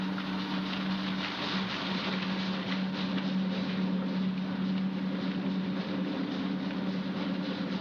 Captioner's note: engine rumbling